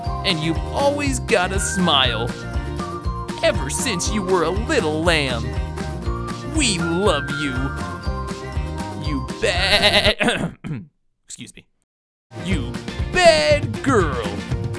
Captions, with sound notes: And you've always got a smile, ever since you were a little lamb. We love you! You baaaaaa— (clearing throat) Excuse me. You bad girl!